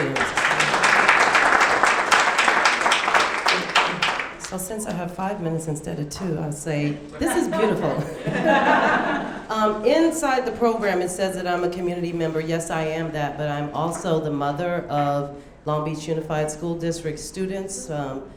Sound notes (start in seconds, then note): 0.0 audience clapping; 7.2 audience laughing